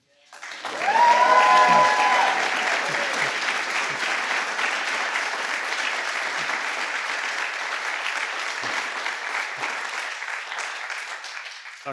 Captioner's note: applause